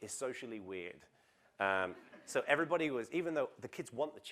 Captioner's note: laugh